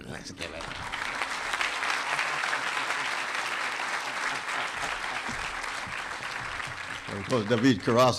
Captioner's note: applause